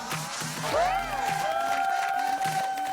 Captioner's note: clapping and loud cheering